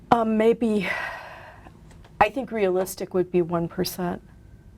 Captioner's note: sighs